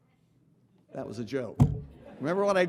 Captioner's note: audience laughing